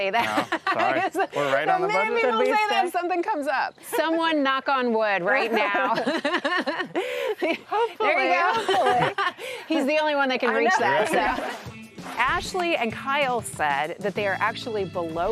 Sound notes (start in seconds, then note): 0.1 laughs; 5.2 group laughs; 9.1 laughs; 12.1 group laughs